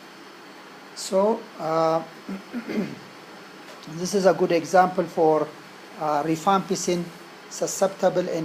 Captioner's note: cough